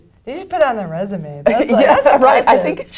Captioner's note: laugh